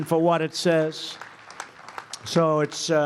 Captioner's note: applause